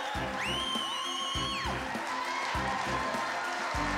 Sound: cheering; whistles

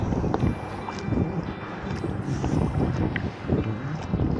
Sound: paddling, music, wind & motorboat

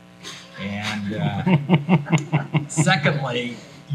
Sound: folks laughing

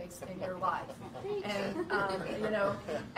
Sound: laughter

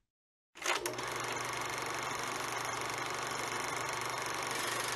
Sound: projector rolling

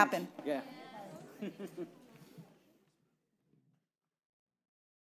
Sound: audience chattering

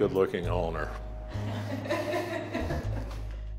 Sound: laughter

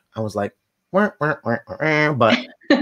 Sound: vocalizes

